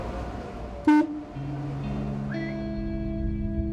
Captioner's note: horn blasts; somber guitar music